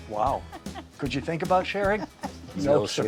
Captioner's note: laughing